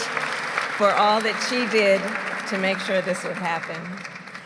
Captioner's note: applause